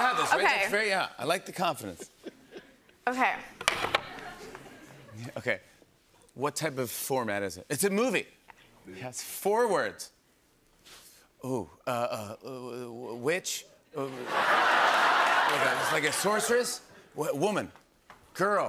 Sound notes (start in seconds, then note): 14.1 laughter